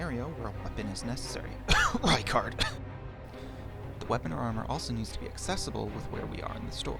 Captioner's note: cough